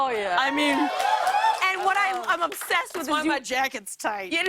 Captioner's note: laughter